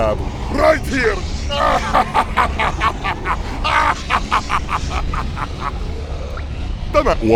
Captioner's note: laughs harder